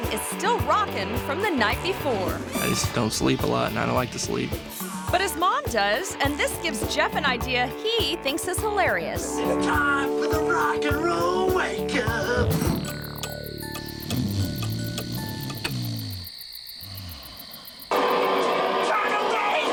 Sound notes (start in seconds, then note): 12.6 gentle music; 12.6 person snoring; 18.4 blasting rock music